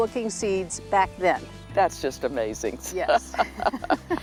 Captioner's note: laughing